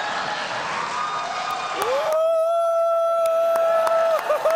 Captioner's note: audience reacts